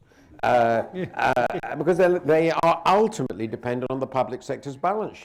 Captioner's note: laughter